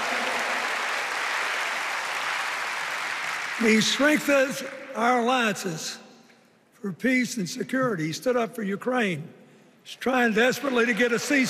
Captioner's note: cheers and applause